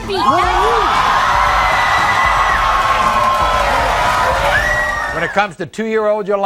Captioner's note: audience cheering